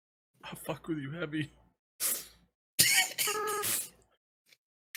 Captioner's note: laughs